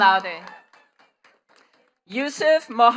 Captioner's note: attendees cheering and clapping